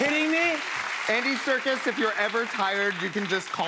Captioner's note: normal voice